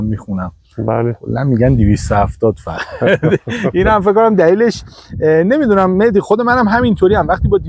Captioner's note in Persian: خنده